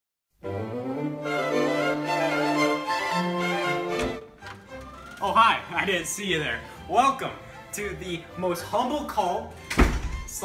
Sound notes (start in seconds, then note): 0.4 whimsical music plays; 3.9 door creaks open